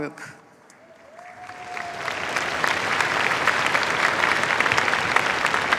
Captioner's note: cheers, applause